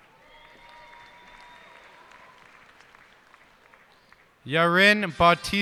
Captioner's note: cheers and applause